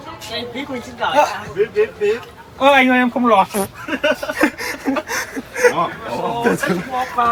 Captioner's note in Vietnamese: tiếng cười